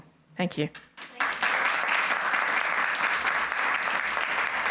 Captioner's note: applause